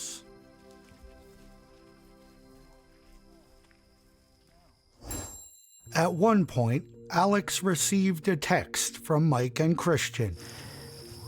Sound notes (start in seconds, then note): 0.0 gentle electronic music; 5.0 air whooshing